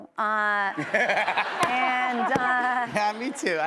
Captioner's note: laughter